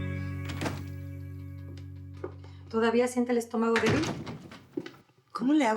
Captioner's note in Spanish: Sonido al abrir la puerta